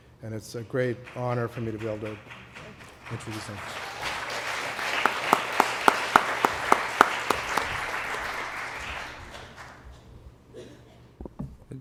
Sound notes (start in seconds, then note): 5.0 applause